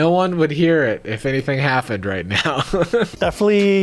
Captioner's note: laughing